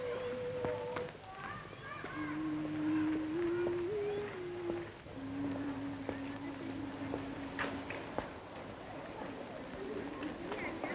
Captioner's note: children chattering; humming continues